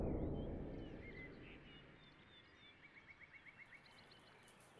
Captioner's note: birds chirping